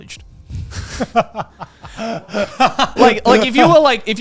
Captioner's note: laughing